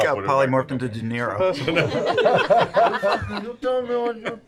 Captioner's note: laughter